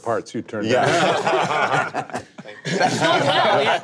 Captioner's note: group laughing